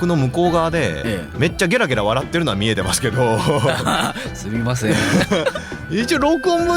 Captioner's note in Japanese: 笑い